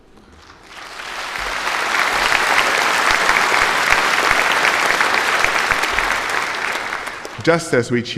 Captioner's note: applause